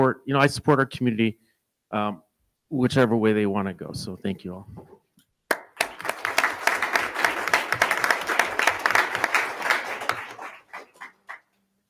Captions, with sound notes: I support our community whichever way they want to go, so thank you all. (attendees clapping)